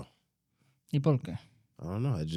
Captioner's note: speaking In Foreign Language